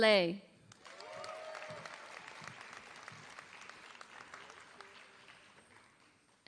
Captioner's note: applause